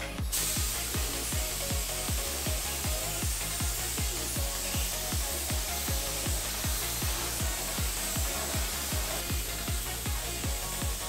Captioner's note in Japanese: 塗装音